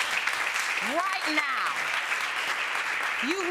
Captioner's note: audience applauding